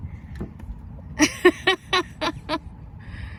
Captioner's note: laughs